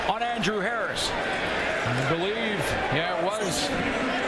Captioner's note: applause